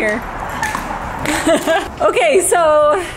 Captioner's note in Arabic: تضحكان